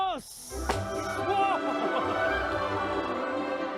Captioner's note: laughs; dramatic music